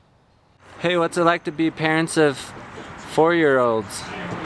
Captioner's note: voiceover